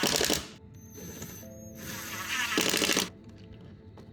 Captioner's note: drill whirring